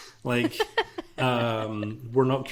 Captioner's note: laughs